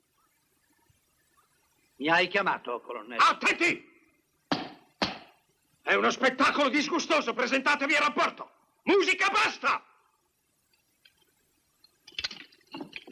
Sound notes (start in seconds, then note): 0.0 silence; 5.0 stamps floor